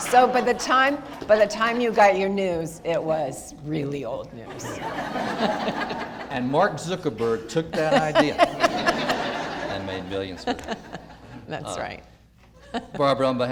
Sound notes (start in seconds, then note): 0.0 audience laughter; 4.5 audience laughter; 7.6 laughter